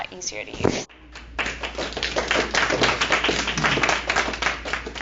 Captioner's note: applause